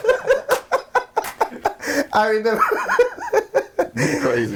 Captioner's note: all laughing